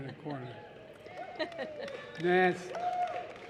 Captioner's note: applause